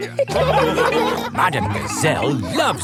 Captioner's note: laughing